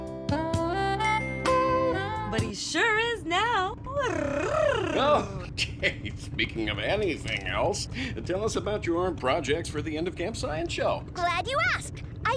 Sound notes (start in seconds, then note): 0.0 smooth jazz music; 4.0 purring